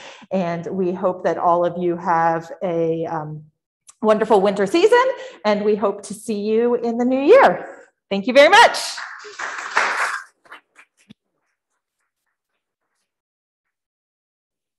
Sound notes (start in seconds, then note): 8.8 audience claps